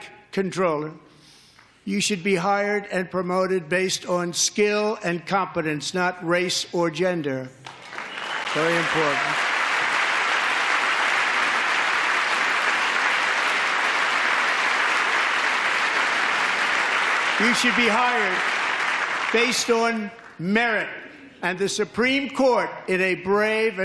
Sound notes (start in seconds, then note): 15.7 applause